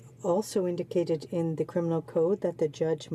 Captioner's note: speaking French